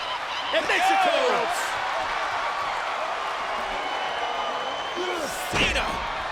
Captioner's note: applause